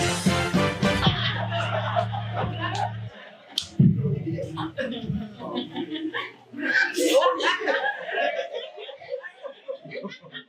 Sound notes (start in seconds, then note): 1.6 audience laughing